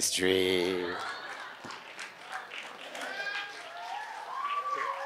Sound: audience laughs and cheers

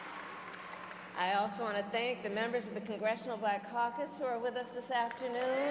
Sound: cheers and applause

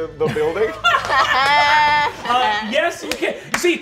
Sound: laughing

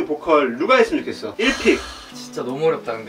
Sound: sighs

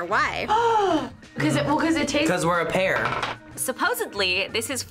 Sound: gasps

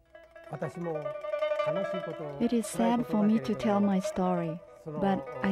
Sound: japanese language

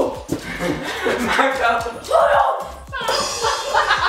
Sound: laughing; laughing

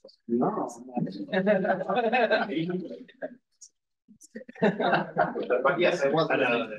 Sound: audio distorting

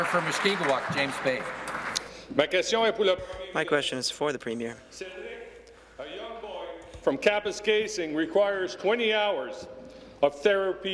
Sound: applause

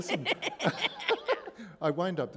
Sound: laughter

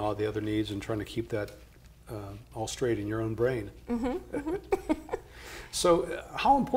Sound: laughs

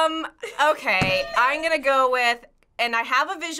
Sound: hitting bell

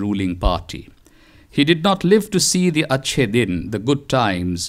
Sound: non-english

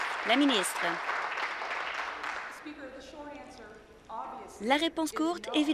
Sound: applause

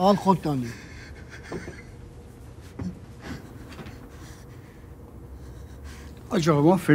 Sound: heavy breathing

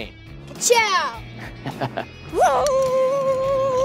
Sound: laughs

